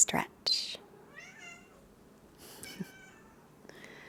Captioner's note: meowing